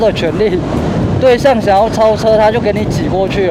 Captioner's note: car